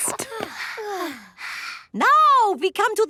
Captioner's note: panting